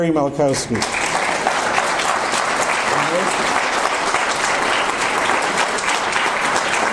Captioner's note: audience applause